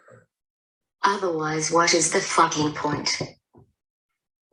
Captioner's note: thuds desk with hand